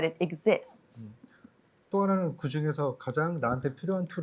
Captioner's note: speaking korean